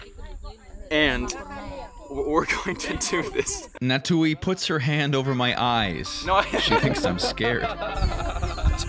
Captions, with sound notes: and we're going to do this. (scoffs) Natui puts her hand over my eyes. She thinks I'm scared.